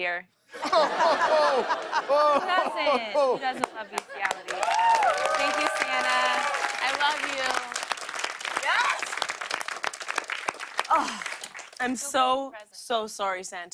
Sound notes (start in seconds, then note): 7.6 applause